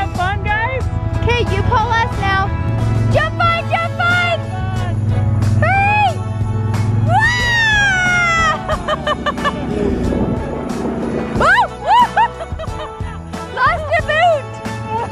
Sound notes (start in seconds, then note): 7.6 laughing